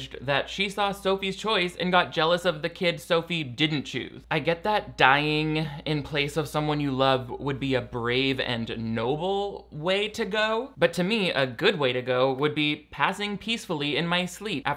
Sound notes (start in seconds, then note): none